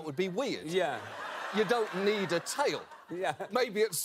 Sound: laughter from seth and audience

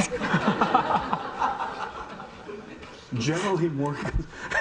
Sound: audience laughing

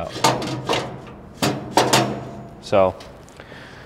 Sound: metal chinking

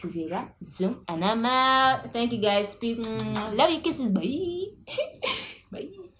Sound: kisses

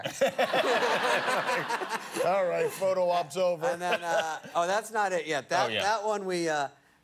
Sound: laughter

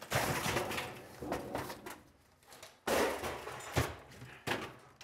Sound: materials rattling

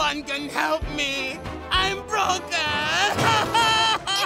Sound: sobbing

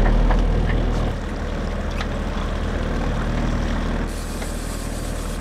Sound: boat motor purrs; reel clicking in

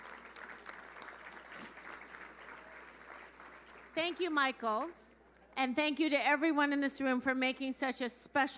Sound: applause

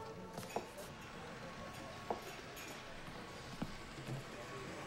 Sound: cutlery clinks quietly, miniature train whirs

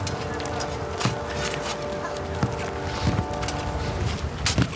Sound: ground pounding

